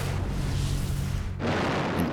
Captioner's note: explosion